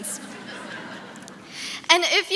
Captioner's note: audience laughing